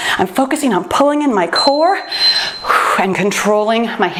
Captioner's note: timer beeps